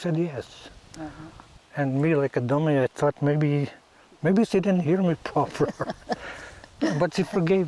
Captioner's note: laughs